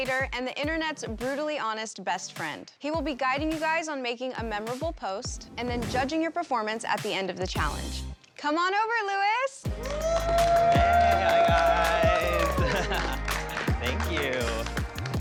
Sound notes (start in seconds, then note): 9.7 cheering; 12.2 laughing